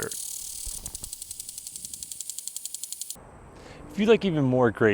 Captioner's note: water hissing; sprinkler clicking